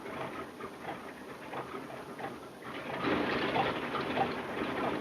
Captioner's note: engine puttering